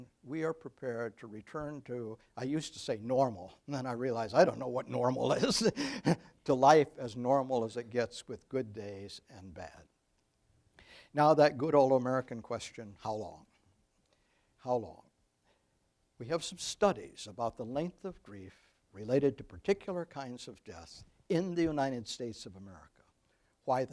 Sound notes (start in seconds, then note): 5.2 laughing